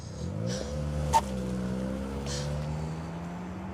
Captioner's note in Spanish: Ruido del vehículo